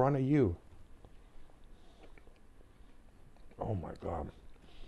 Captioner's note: silence